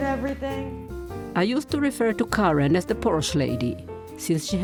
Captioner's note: voice-over